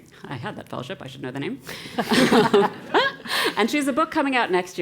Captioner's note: laugh